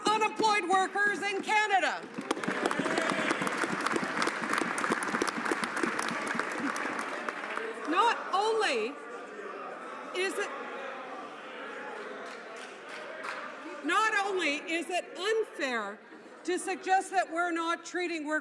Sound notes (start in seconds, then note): 7.6 some Applause